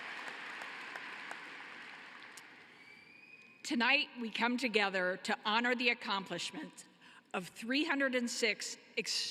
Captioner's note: cheering and applause